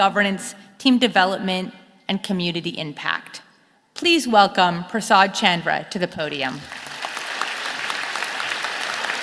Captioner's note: applause